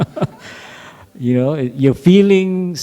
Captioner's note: laughter